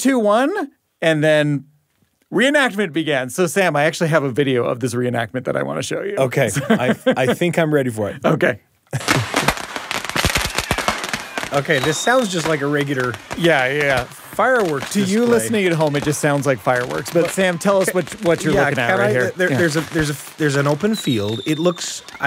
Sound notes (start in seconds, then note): 9.6 sound of fireworks